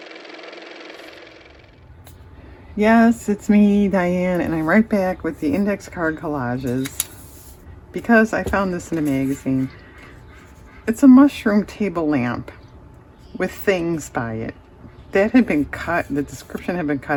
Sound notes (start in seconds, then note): 2.1 car motor